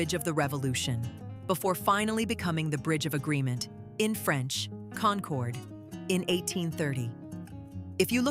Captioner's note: in French - Concorde